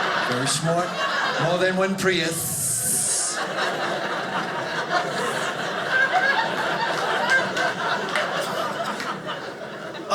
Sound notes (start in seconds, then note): 3.3 audience laughing